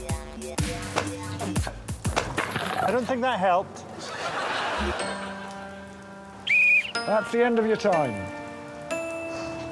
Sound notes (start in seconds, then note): 6.4 blows whistle